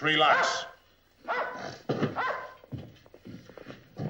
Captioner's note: dog barking